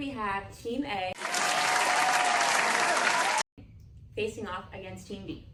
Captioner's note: applause